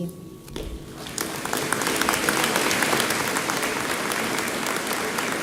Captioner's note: audience applauding